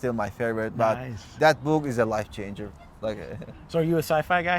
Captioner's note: güler